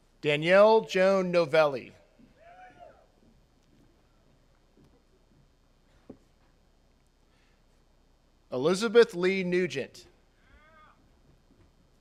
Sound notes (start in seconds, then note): 2.3 attendees cheering